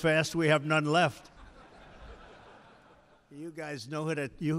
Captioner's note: laughter